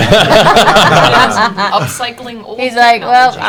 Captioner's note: laughter